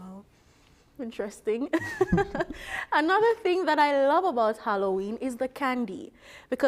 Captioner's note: laughter